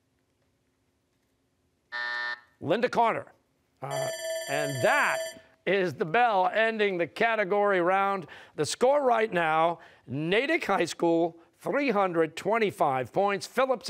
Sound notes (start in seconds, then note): 1.9 buzzer; 3.8 bell rings